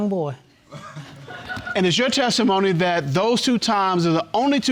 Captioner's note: audience laughing